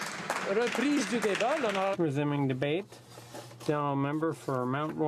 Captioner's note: some Applause